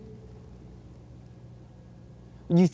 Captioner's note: none